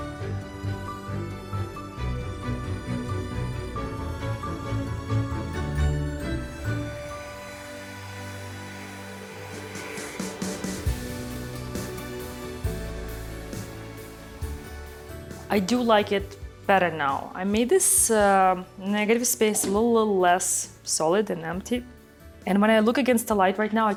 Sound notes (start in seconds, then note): 0.2 gentle bright music continues; 6.8 blower whooshing; 6.8 gentle bright music